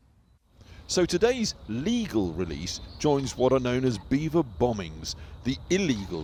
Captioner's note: voice-over